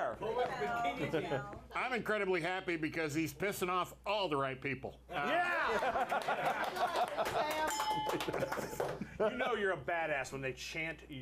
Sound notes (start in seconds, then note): 7.6 bell rings; 9.6 hammer pound